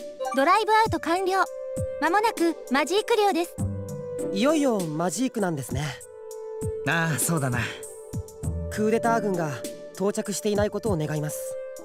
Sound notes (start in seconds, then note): none